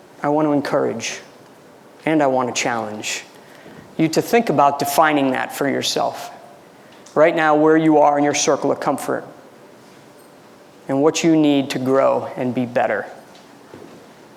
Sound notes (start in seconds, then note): none